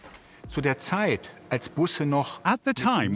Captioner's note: man speaking in foreign language